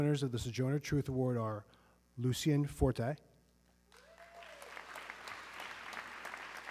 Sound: audience cheering

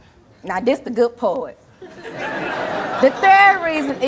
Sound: audience laughing

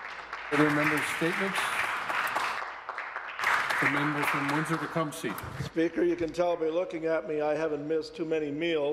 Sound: applause

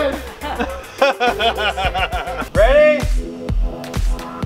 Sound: laughs

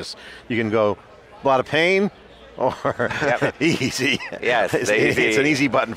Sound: laughs

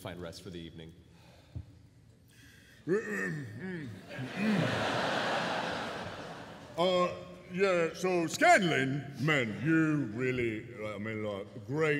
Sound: clears throat

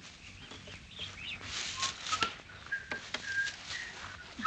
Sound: Ann whistling

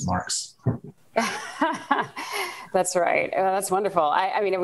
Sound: laughs

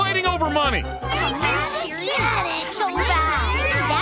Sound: moaning and complaining

